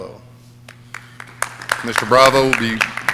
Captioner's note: audience clapping